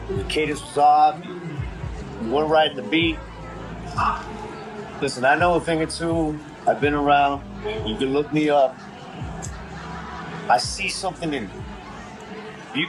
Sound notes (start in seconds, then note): 9.0 background laughter